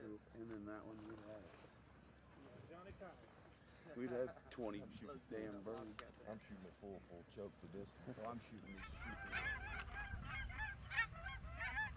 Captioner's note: geese honking